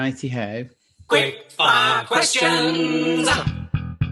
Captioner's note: voiceover